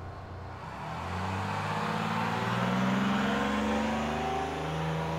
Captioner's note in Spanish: motor de autobús acelerando